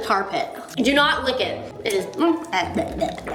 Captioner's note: gagging